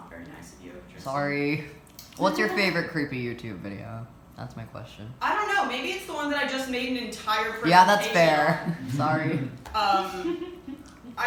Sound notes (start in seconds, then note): 8.7 collective oohing